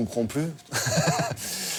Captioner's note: laughter